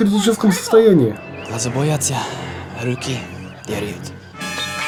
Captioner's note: chekov speaks russian